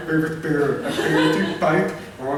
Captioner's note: laughter